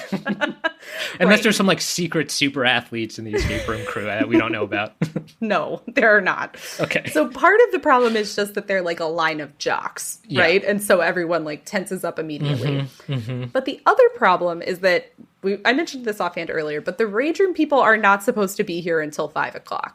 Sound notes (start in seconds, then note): 6.6 laughs